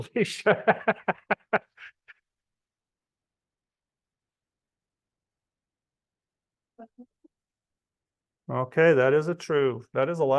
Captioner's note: laughs